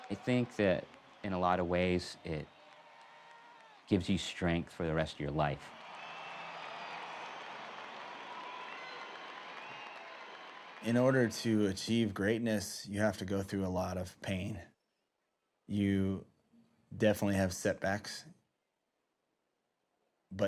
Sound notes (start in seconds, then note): 5.7 cheering